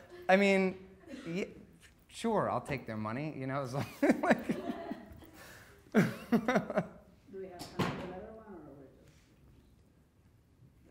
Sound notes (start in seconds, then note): 3.9 laughing